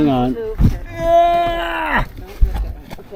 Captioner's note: intense groaning